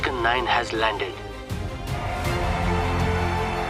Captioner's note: cheers and applause